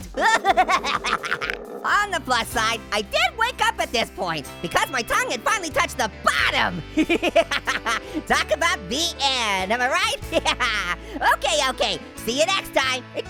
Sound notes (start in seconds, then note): 0.0 Orange groaning; 6.3 Orange laughing; 10.7 laughs